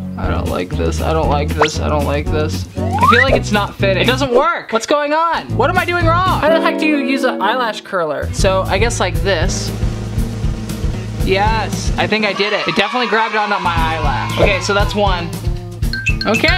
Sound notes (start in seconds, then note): 9.2 drum rolling; 12.1 cheering